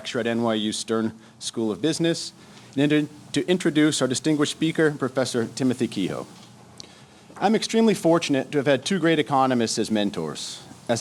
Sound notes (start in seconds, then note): none